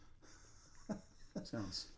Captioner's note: laughing